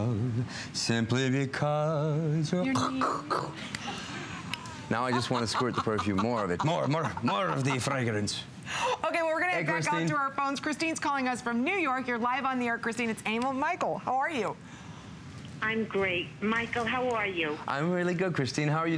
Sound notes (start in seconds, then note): 7.9 more of the fragrancelaughter